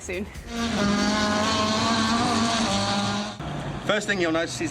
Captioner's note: engines roaring